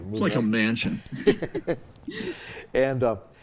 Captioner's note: all chuckling